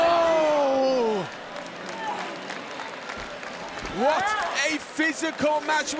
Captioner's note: applause